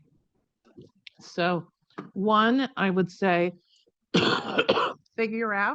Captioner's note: coughs